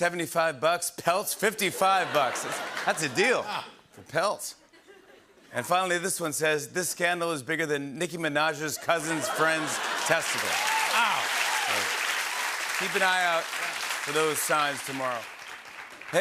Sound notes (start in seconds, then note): 1.7 laughter and applause; 8.8 laughter and applause; 9.0 cheering